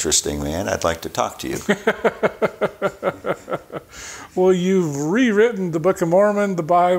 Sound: chuckling

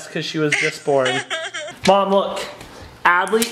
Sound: laughs

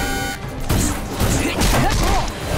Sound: grunting

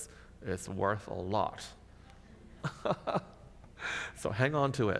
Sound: laughs

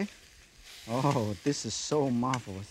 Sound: ingredients sizzling; chuckles

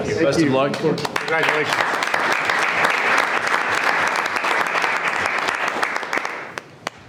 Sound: board applauding

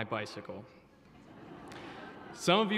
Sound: audience laughs

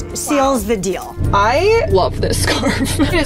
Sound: laughs

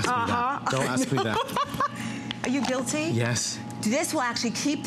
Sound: laughter

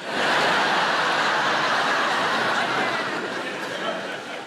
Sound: audience laughing

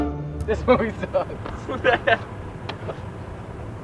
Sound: laughing

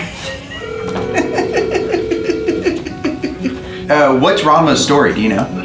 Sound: dial tone ringing; laughing

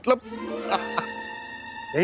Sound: laughing

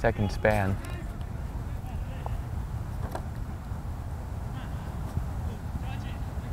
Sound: players talking and yelling

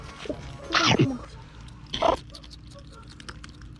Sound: The sound of Timon chewing

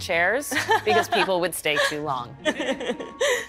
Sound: laughs

